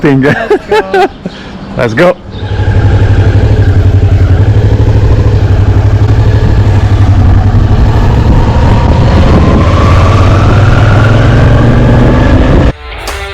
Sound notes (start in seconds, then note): 2.1 motorbike engine; 12.8 upbeat rock music